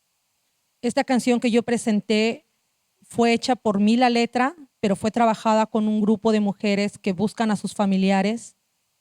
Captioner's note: speaking Zapotec language